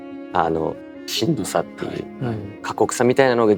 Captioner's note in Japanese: 咳払い